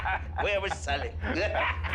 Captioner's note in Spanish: Risas